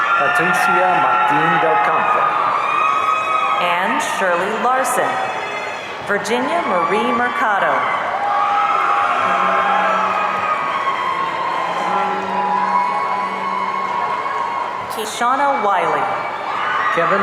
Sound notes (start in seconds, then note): 8.4 audience cheering